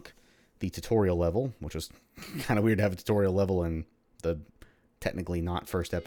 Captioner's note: chuckles